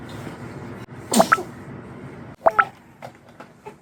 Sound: sneezing

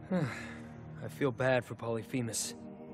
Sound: sighing

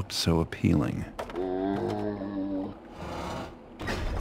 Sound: zombie sound

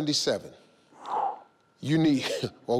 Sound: sighs

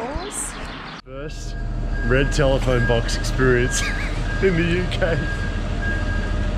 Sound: laughs

